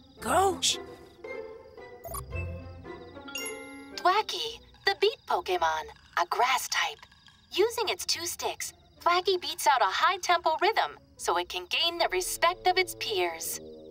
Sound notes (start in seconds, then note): 2.0 beeps; 3.2 chimes